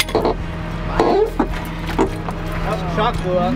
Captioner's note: creaking